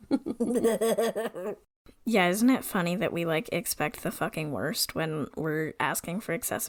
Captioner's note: laughs